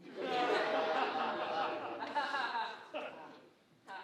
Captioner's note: audience laughing